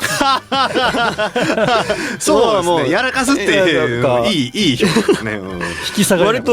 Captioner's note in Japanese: 笑い